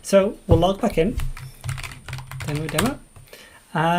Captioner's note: keyboard keys clank